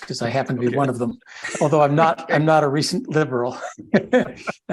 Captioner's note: laugh